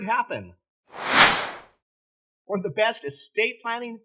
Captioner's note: air whooshing